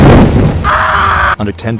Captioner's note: screaming